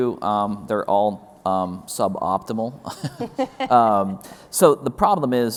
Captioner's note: laughs